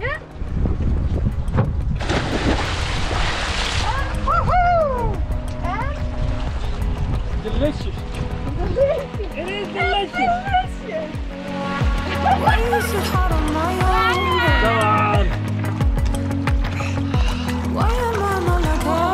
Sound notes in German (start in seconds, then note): 12.0 lacht